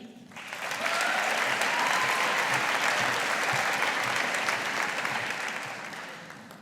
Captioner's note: audience applauding